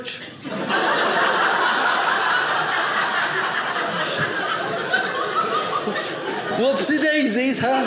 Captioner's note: audience laughing